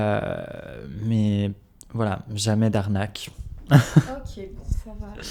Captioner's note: laughs